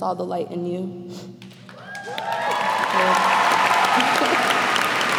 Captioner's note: cheers and applause